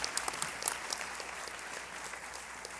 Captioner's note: applause